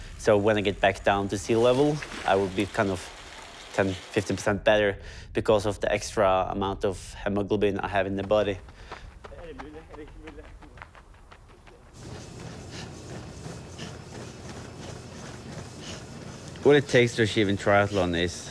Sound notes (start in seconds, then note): 10.8 foot-falls